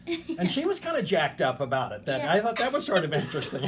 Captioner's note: laughing